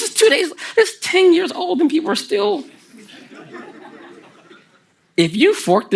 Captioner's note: the audience laughs